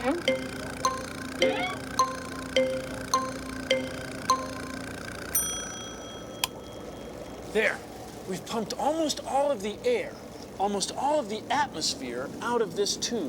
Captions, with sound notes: [ BELL DINGS ] [ CLICKS ] THERE. WE'VE PUMPED ALMOST ALL OF THE AIR, ALMOST ALL OF THE ATMOSPHERE, OUT OF THIS TUBE.